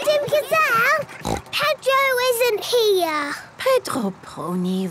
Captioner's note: snort